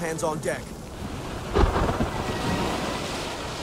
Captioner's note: thunder cracks